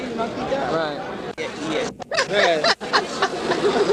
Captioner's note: laughing